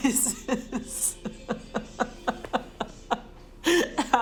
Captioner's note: laughing